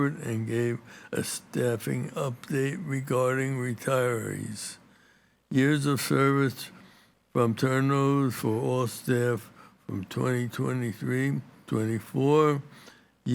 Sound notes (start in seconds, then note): none